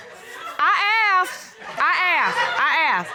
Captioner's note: laughter; laughs